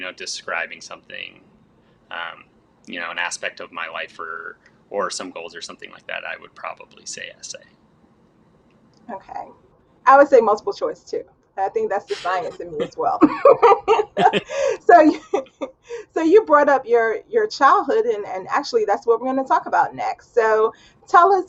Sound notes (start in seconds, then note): 13.2 both laughing